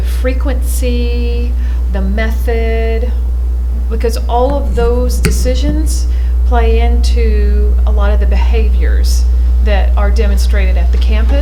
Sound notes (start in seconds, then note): none